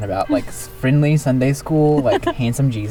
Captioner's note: laughs